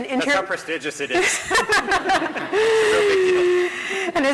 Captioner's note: laughter